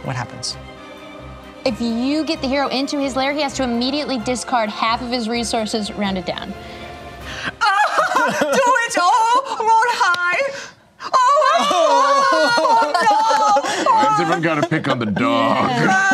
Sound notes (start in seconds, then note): 7.6 laughs loudly; 11.1 excited yelling